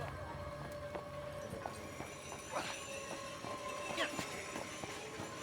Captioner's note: people chattering faintly